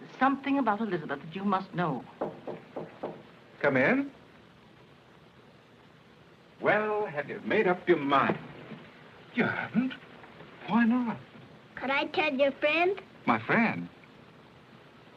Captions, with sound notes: there's something about Elizabeth that you must know. - [knocking] - Come in. Well, have you made up your mind? You haven't? Why not? Could I tell your friend? My friend?